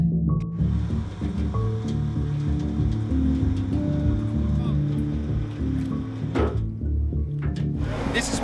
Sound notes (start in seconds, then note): 3.3 machine whirring; 5.4 soft music